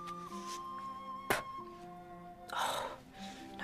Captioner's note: spits